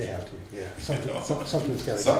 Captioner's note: laughs